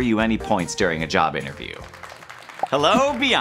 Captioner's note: applause